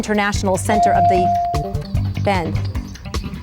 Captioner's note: bell dings